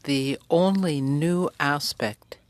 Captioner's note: speaking french